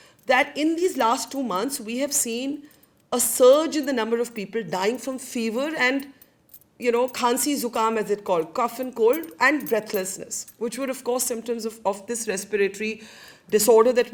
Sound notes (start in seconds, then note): 7.1 speaks in foreign language